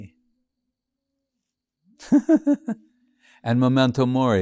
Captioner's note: laughing